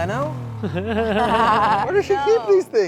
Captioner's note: everyone laughs